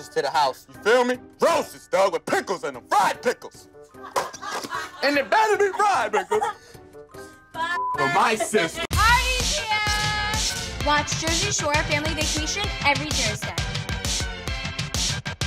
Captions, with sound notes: - You better send roses to the house, you feel me? Roses, dog, with pickles in 'em, fried pickles. (Housemates laughing) And they better be fried pickles. (Snooki laughing) For my sister.